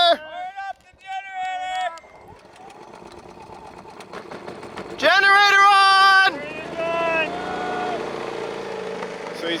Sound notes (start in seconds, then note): 1.9 generator sputtering